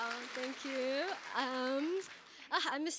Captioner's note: cheers and applause